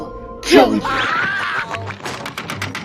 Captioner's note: Squidward Sceams